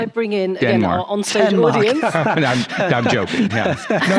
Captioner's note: chuckles